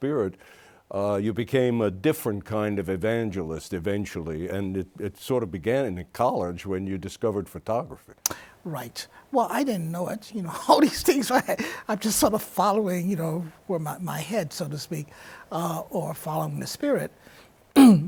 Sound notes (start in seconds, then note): 9.4 laughs